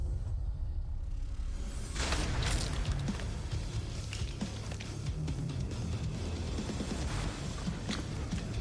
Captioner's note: blade impacts